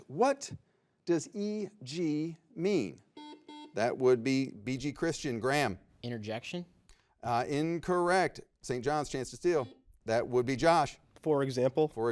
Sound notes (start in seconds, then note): 3.1 buzzer beeps